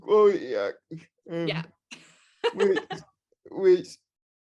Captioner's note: laughing